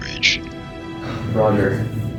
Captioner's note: sighs